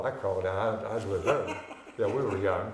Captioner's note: laughing